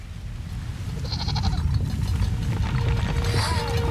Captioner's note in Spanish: temblor